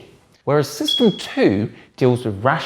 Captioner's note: bell dings